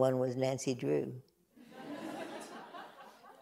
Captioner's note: laughter